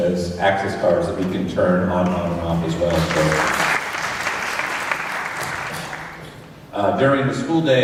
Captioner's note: applause